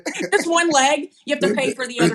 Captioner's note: laugh